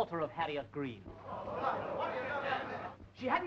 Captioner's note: audience murmuring